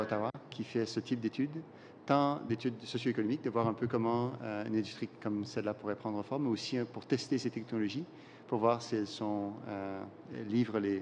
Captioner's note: speaking French